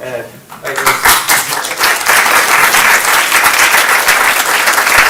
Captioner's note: applause